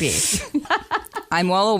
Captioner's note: laughter